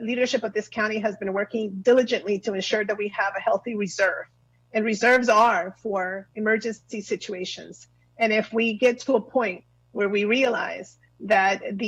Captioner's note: spanish